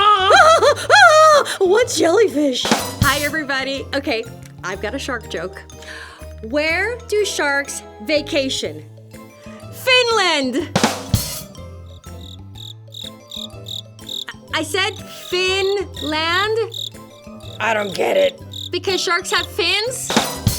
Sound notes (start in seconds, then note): 12.1 crickets